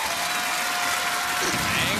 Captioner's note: farting noise